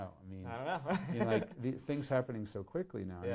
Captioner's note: laughs